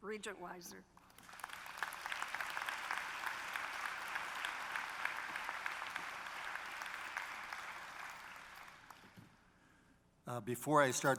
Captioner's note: applause